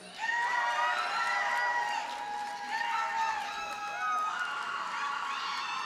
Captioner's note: audience cheers and applauds